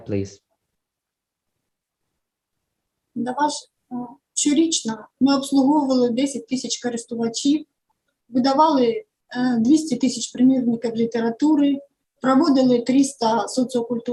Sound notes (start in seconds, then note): 0.6 foreign Language